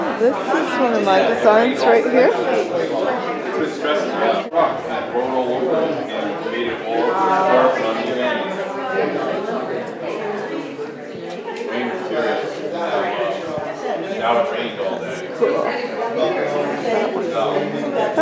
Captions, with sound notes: This is one of my designs right here. *crowd murmering* That's cool.